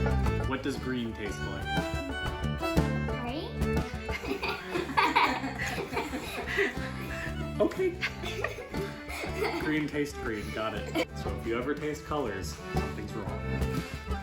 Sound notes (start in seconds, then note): 4.0 everyone laughs